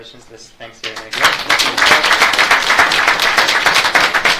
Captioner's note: audience claps